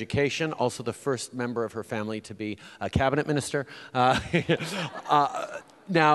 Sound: laughs

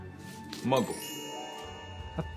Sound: magical chime

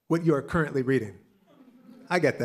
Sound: laughter

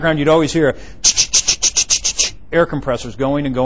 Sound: imitating air compressors

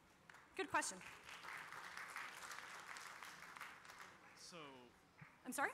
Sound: applause

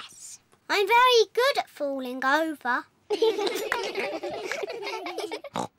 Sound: all giggle

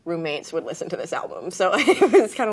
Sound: laughs

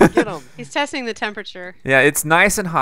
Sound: voiceover

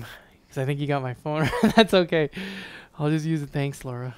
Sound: giggles

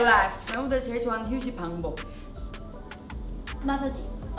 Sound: speaks in Korean

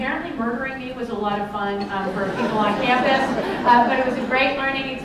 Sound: laughter

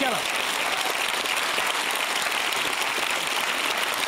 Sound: applause

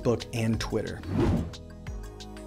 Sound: whooshing; gentle music

